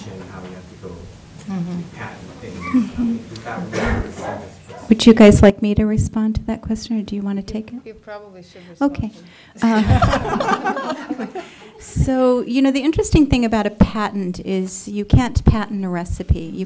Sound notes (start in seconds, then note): 2.6 aggressive coughing; 9.6 laughter